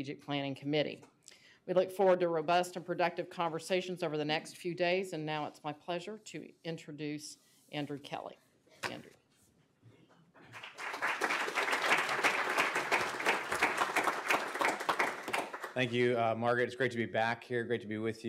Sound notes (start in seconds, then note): 10.5 applause